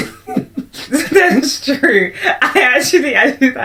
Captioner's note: laughs